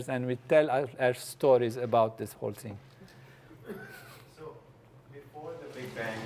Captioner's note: laugh